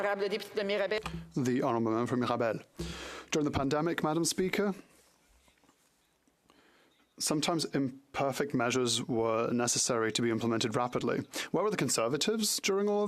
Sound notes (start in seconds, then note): 9.0 speaking French